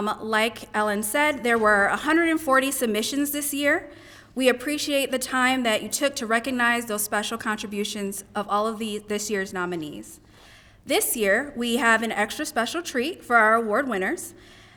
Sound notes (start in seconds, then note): none